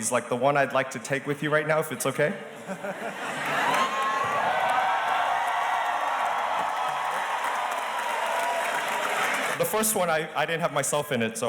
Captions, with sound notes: like the one I'd like to take with you right now, if its okay. (audience chuckles and cheers) The first one, I didn't have myself in it,